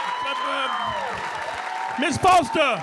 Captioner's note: audience cheering